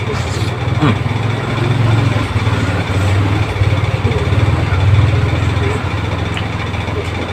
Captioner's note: laughs